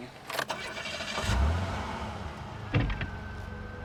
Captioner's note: engine revving